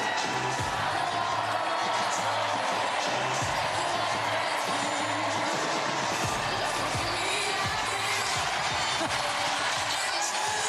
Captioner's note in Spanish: aplausos